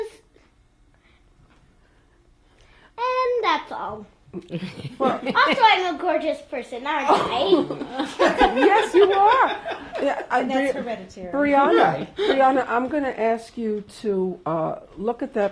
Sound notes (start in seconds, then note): 0.2 pauses for 3 seconds; 4.4 laughter; 7.0 laughter